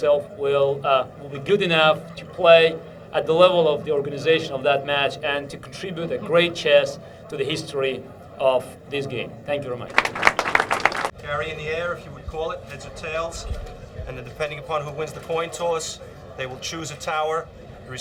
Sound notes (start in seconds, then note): 9.9 applause